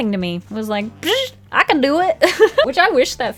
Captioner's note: laughs